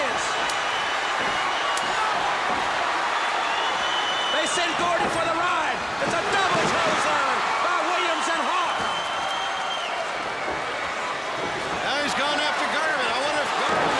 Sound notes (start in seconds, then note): 4.9 crowd cheering